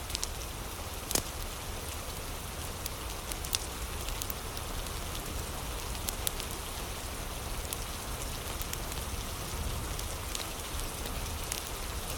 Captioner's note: fire crackling; fire crackling